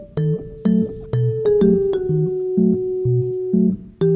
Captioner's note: sniff sniff